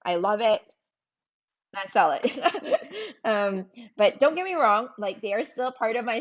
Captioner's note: laughs